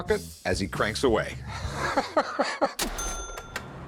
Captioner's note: laughter